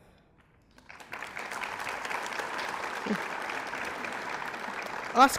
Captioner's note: applause